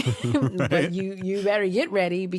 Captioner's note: chuckles